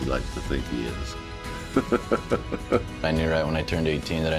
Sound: laughter

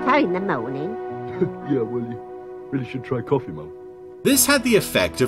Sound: chuckling

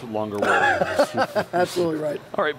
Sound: laughing

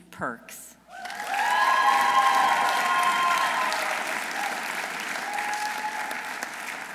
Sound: audience cheering; audience applauding

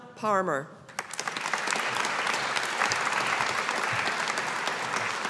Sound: audience applauding

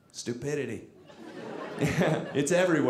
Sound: audience laughing

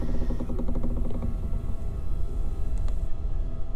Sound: doors creak

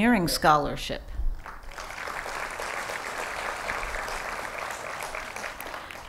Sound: applause

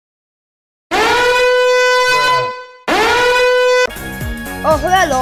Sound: red arrow sound effect

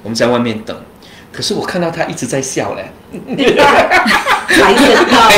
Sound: laughter

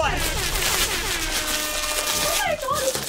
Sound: horns blazing; papers rustling

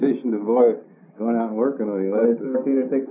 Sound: laughs

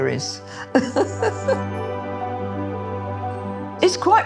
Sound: Zandra laughing

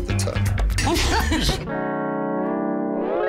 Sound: laugh; slow music

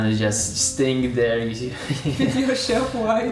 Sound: both laughing

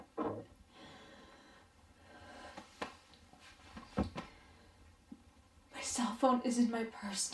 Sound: rustling sound

